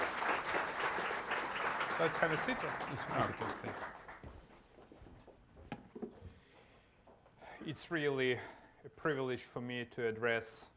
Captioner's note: applause